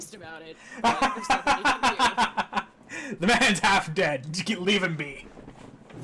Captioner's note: laughing